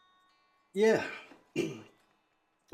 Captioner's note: clears throat